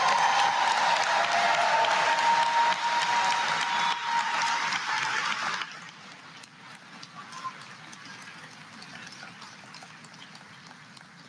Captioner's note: applause